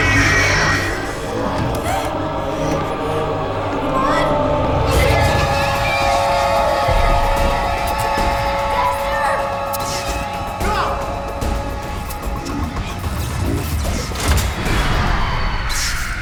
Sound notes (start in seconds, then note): 0.0 Mattie gasps